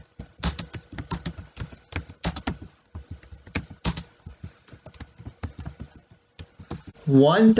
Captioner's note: tapping of the keyboard